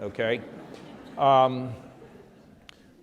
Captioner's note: laughter